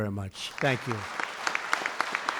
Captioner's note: applause